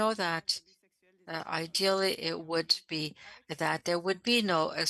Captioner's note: speaking French